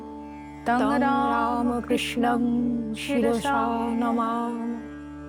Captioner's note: chanting